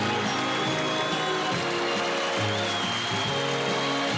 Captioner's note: audience applauding